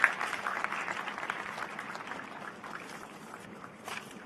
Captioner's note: applause